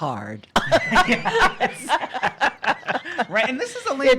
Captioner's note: laughter